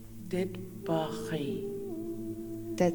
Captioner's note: In Mi’kmaq